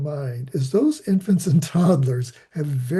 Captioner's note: laughing